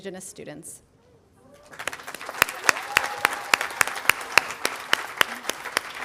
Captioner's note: audience applauding